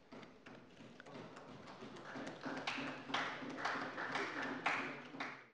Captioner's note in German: Beifall bei Abgeordneten der CDU